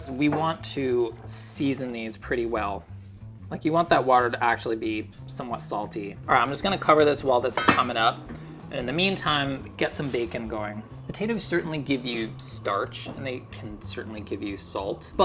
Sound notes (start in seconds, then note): 7.4 pan lid clanking